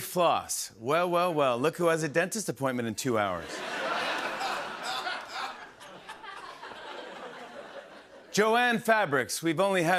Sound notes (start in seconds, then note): 3.4 laughter